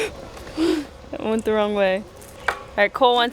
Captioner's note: gasp